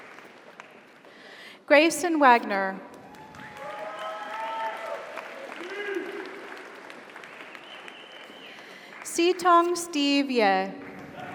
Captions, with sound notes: Grayson Wagner. (audience applauds) (audience cheers) Sitong Steve Ye.